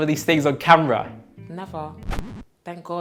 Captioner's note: vinyl scratch